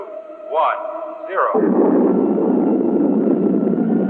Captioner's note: rockets roaring